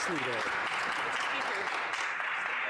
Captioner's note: some Applause